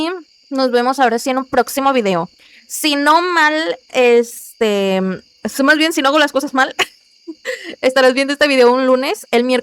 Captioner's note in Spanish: risas